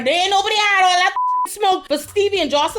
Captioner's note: beep